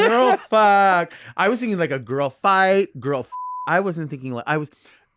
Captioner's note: beep